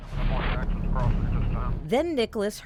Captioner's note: radio transmissions